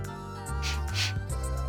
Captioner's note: sniff